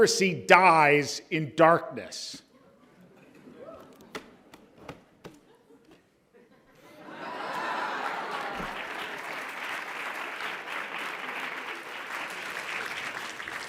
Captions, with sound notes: Democracy dies in darkness. (audience laughs) (audience applauds)